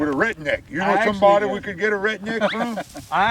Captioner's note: chuckling